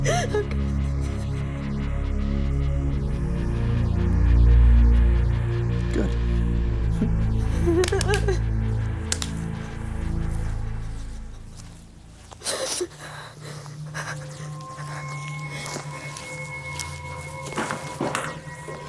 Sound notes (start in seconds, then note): 2.0 suspenseful music; 7.4 whimpering